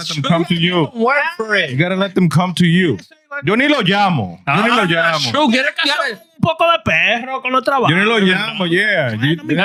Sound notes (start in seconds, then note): 4.9 speaking In Foreign Language